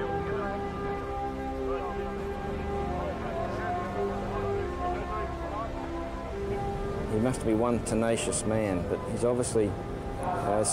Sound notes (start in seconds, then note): 2.4 group chattering; 4.4 elated music continues